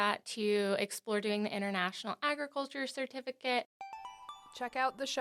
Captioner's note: chime